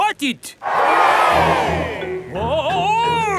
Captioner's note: crowd cheers